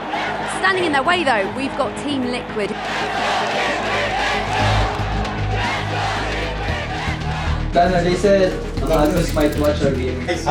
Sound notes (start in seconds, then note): 2.9 crowd chanting